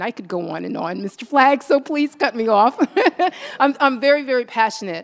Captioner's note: laughs